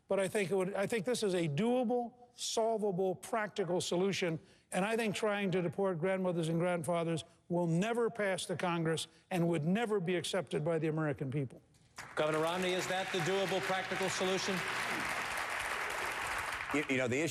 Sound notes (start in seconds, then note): 11.9 applause